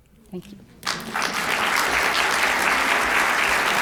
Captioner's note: applause